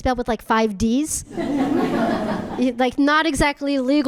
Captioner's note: audience laughing